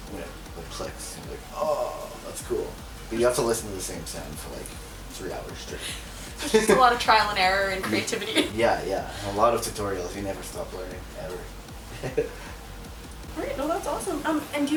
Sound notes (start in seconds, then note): 11.9 laughs